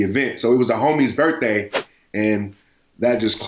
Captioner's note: whoosh